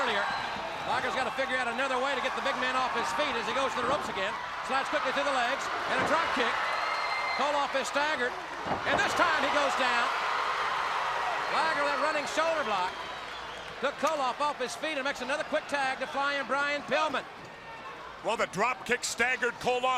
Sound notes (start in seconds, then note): 11.0 crowd cheering